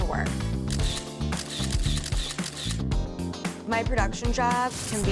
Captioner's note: cameras clicking